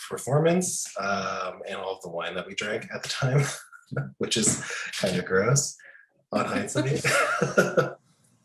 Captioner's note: laughing